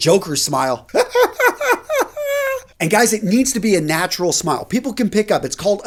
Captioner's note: laughs